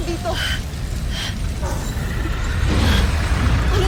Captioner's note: grunts; reverberating chimes, spellbinding whoosh